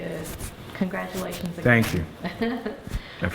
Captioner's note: laughter